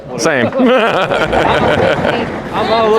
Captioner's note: laughing